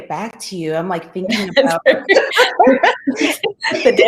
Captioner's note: laughs